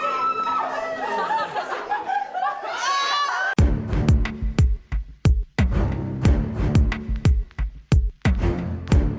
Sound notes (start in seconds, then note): 0.4 team laughing; 3.6 intense music